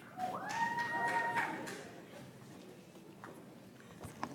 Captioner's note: audience applauds